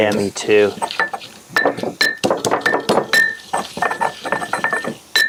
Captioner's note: mortar and pestle grinding